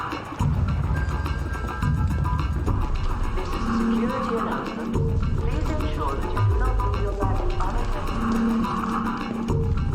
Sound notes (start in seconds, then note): 0.5 P.A. system dings; 3.6 woman announcing over P.A